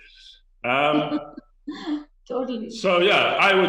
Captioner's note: chuckles